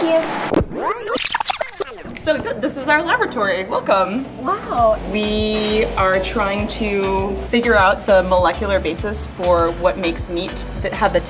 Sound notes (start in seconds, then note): 0.0 video tape whining